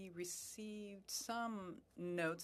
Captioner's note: speaking French